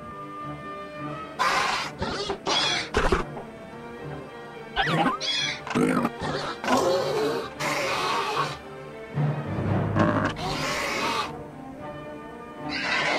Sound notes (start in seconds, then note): 2.2 Gallimimus Sounds